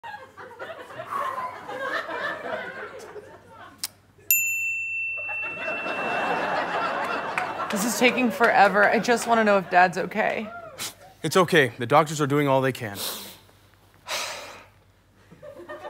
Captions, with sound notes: [laughs] This is taking forever, I just want to know if Dad's okay. It's okay, the doctors are doing all they can. [sighs]